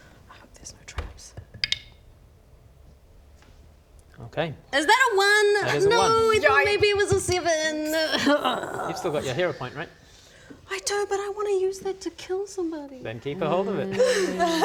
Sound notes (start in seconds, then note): 7.9 hurrrggrhghghh